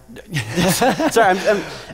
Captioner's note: laughter